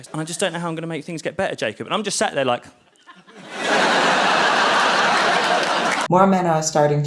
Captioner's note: audience laughs